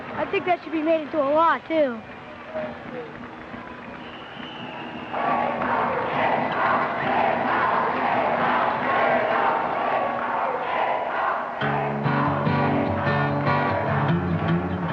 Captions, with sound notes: - I think that should be made into a law too. (crowd chanting) (upbeat music)